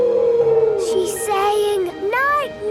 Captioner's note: whale calling